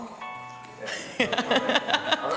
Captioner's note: laughs